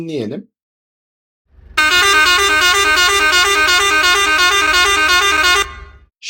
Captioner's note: horn Sound 2